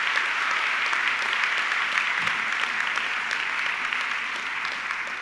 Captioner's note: audience clapping continues